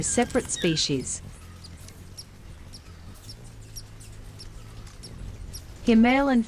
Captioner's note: birds chirping